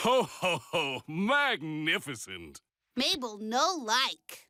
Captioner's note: through telephone; in deep voice